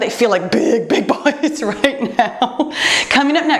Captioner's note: laughs